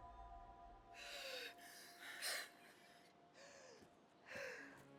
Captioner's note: Nelly gasping